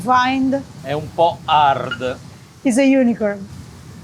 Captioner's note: speaking in foreign language